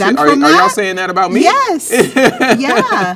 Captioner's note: laughs